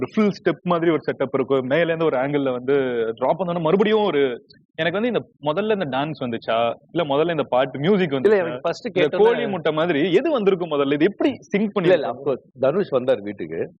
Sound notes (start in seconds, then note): none